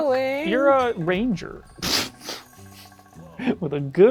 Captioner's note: laughs